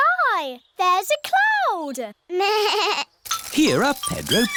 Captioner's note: bleats